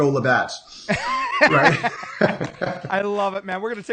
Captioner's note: laughing